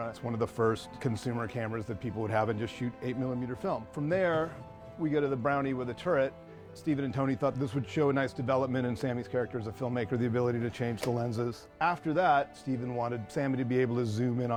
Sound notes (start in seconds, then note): none